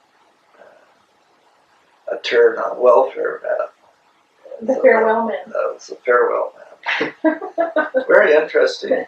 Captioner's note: laughter